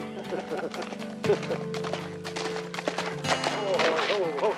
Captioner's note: horse galloping